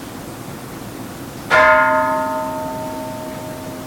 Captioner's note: Kansho ringing